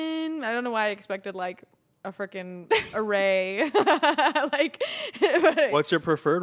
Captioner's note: laughs